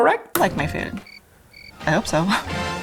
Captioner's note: cricket chirping